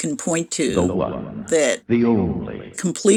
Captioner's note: soundbite of archived recording